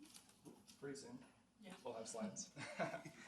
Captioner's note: laughs